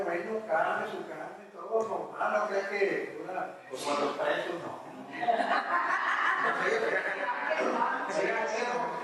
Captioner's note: laughs